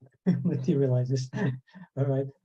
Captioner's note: laughs